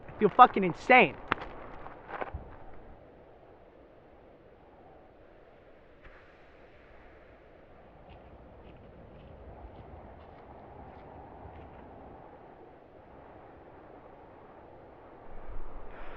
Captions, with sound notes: I feel fucking insane. [GENTLE INHALE] [FOOTSTEPS APPROACH]